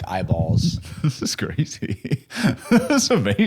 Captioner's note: laughing